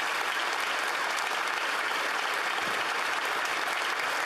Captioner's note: applause